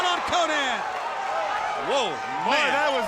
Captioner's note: crowd cheering